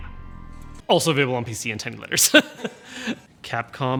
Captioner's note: laughs